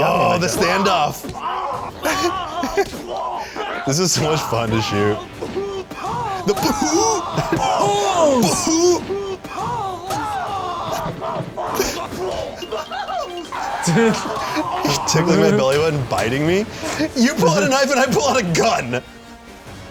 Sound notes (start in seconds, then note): 7.1 both screaming in pain